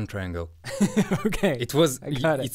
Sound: laughs

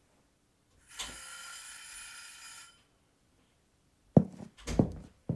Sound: oven timer rings

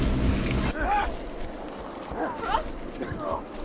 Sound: distant struggle/fight

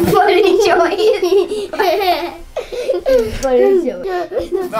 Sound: giggles

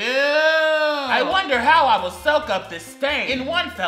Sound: sarcastically

